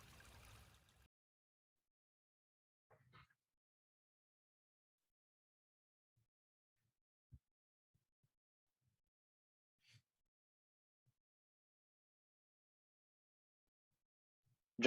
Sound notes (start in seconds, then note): 0.1 silence